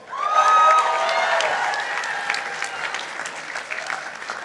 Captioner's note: participants applauding